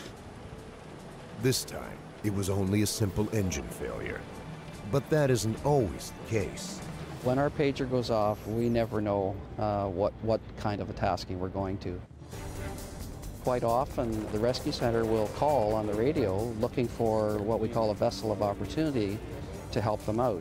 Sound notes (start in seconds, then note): 11.6 voiceover